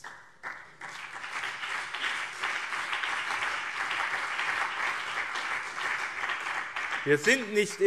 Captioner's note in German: Beifall BÜNDNIS 90/DIE GRÜNEN und CDU